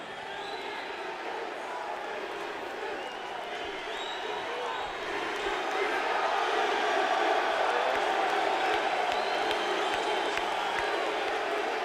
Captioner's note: crowd chanting: ddp! ddp!